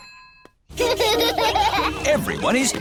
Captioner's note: children laughing